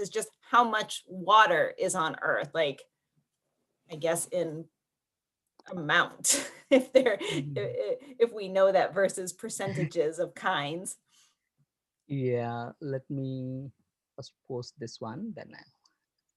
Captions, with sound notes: is just how much water is on earth, like, I guess in amount, if (laughs) we know that versus percentages of kinds. - Yeah, let me first post this one then I'll,